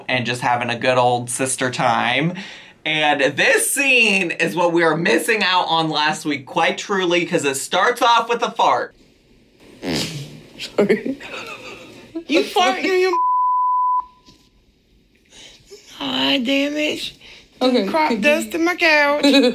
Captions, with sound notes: and just having a good old sister time. And this scene is what we are missing out on last week. Quite truly, 'cause it starts off with a fart. - Sorry. (chuckles) - You're farting, you (beep) - Damn it bitch-- - okay. - You crop-dusting my couch.